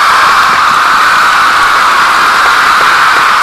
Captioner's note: stupendous applause